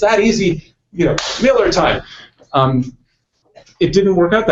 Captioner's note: claps hands